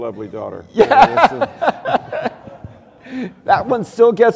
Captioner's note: laughter